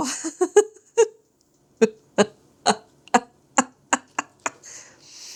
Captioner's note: laughs